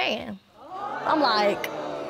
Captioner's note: audience gasping